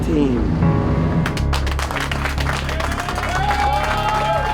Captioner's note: clapping